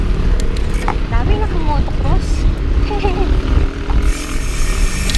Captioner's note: laughs